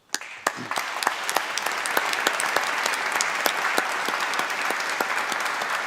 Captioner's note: applause